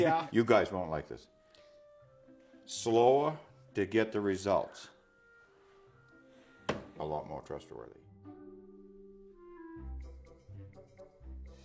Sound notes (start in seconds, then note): 6.6 hand hitting box